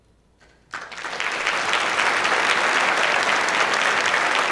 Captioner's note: clapping